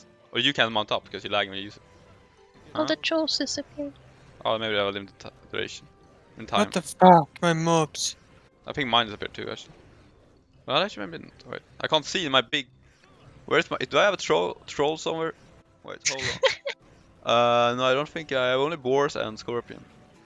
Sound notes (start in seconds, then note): 16.1 haha